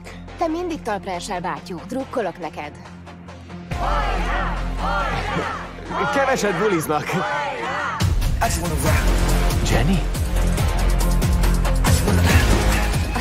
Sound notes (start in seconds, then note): 3.6 all chanting; 6.4 chuckles